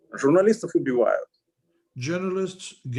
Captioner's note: speaking Russian language